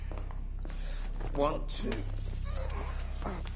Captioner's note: GRUNTlNG